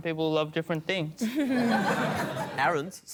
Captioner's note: laughter